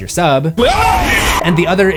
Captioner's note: screams